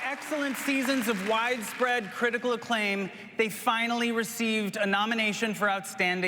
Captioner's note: applause